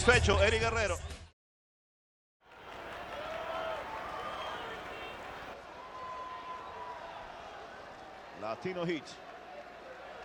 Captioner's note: applause